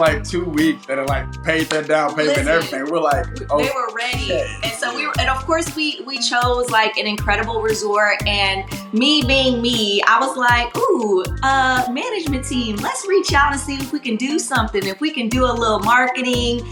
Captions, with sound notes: - In the first, like, two weeks that are like, paid that down payment and everything. (hands clap) And we're like, okay. - Listen, they were ready. And so we were, and of course we chose like, an incredible resort. And, me being me, I was like, ooh, management team, let's reach out and see if we can do something, if we can do a little marketing,